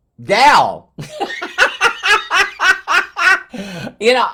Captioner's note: laughs